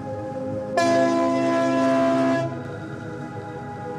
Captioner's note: horn bellowing